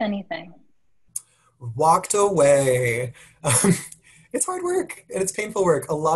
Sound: laugh

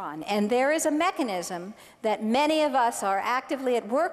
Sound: none

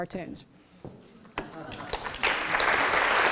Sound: applause

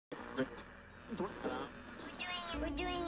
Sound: tv static

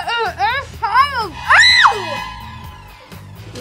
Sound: screaming

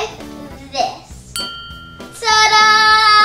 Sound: bell chimes

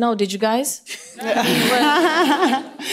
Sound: laughter

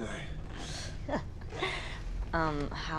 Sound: chuckles

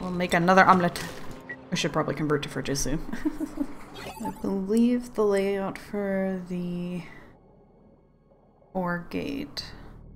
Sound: laughs

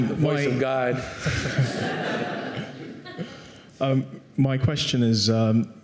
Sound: audience laughing

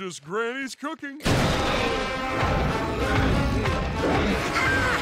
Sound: roaring; laughing

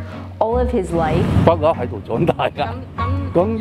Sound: Cantonese

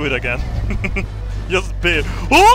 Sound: chuckles

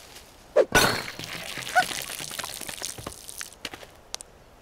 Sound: soda dripping

